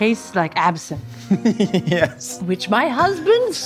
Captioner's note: laughing